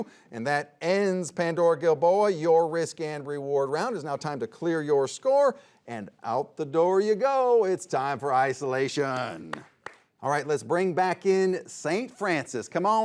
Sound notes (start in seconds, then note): 9.1 applauds